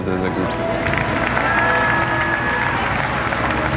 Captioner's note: applause